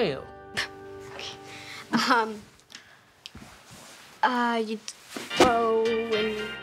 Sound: whooshing sounds

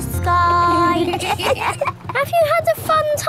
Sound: kids giggling

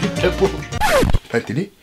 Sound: skid noise

